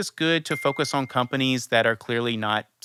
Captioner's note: bell chiming